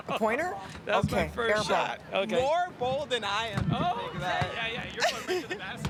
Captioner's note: laughter